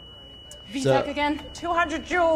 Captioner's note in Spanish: pitido de línea plana